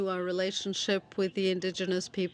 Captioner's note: speaking French